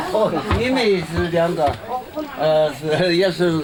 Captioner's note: non-english speech